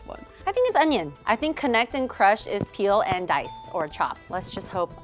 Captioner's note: ding